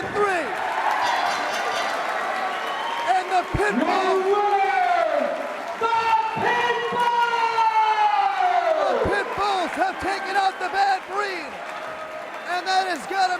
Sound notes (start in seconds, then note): 1.0 bell ringing; 2.8 crowd cheering